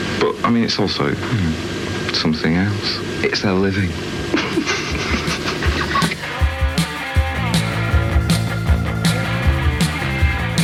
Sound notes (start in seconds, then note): 4.0 laughs; 4.9 upbeat rock music